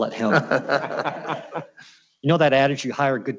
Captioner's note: laughs